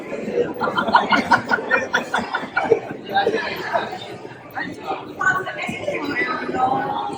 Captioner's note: laughter